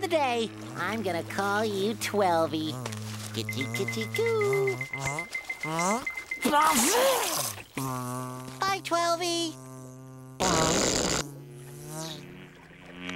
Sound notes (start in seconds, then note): 6.3 sneezing; 10.3 zapping